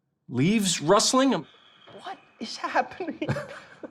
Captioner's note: laughing